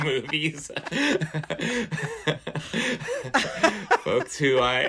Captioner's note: laughter